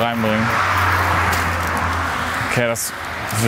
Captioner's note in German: Motorengeräusch